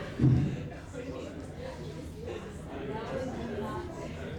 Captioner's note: audience murmurs